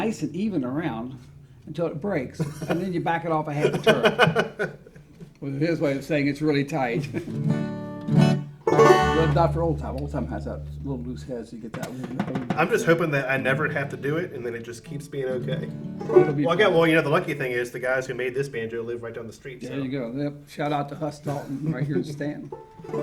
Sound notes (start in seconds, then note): 3.6 laughs; 7.4 guitar notes ring